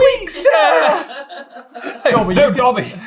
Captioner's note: laughing